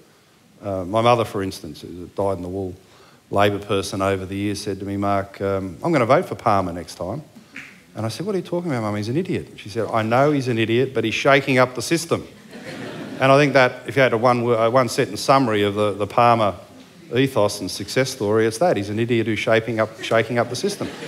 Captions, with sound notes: My mother for instance died in the war. A Labour person said to me over the years, "Mark, I'm going to vote for Palmer next time." And I said, "What are you talking about? He's an idiot." He said, "I know he's an idiot, but he's shaking up the system." [ Laughter ] And I think if you had a one sentence summary of the Palmer ethos and success story, it's that: he's an idiot who's shaking up the system.